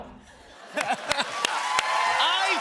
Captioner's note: laughter, cheers, applause